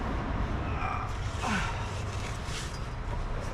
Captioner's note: grunts